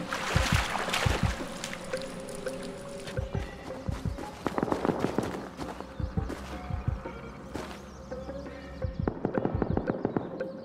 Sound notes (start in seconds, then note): 0.0 water dripping; 3.0 loud crunching footsteps; 9.0 distant gunshots